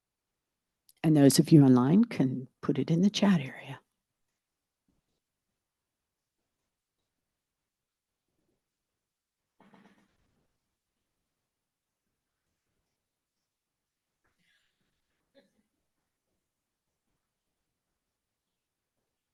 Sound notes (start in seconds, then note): 3.7 extended silence